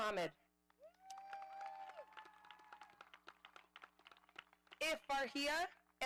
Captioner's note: audience applauding